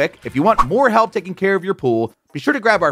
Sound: graphics swishing

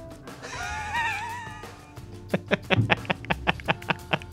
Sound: laughing

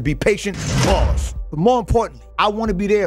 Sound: bars slamming

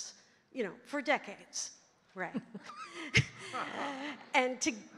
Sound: all chuckling

